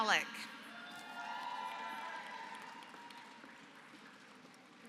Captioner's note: applause